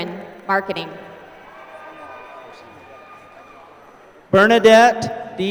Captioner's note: applause